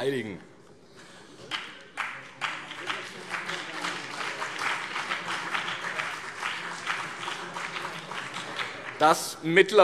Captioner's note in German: Beifall BÜNDNIS 90/DIE GRÜNEN und vereinzelt CDU